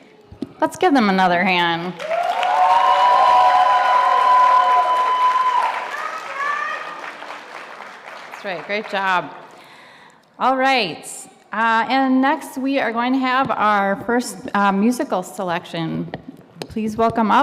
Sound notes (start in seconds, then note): 1.9 audience cheering and applauding